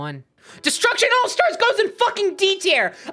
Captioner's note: yelling